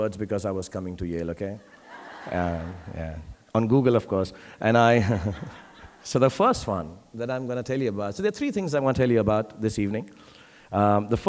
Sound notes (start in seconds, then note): 1.6 audience laughing; 5.0 laughs